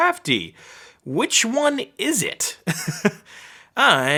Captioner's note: chuckling